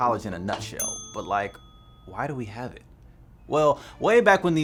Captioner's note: ding